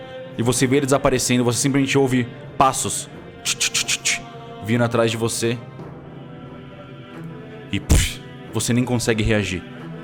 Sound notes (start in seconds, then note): 3.2 tch tch tch; 7.9 pff